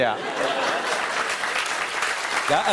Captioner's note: applause; laughs awkwardly